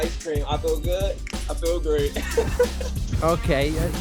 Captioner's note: laughs